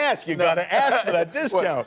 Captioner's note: laughter